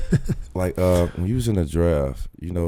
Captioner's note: laughs